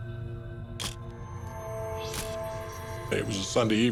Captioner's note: camera shutter click